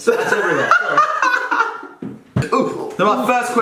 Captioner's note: laughing